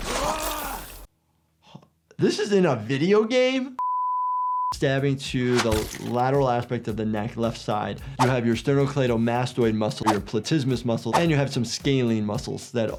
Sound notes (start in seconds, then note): 0.3 character groans; 3.8 broadcast signal beeps